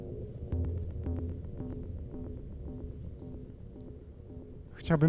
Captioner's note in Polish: Krótkie, miarowe, elektroniczne łopotanie